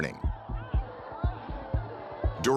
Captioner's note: crowd clamoring